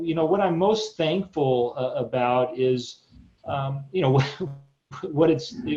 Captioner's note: chuckles